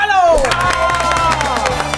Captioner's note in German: Jubel, Applaus